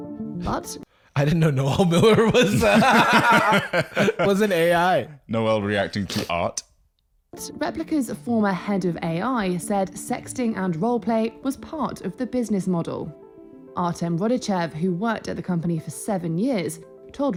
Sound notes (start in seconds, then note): 1.5 both laughing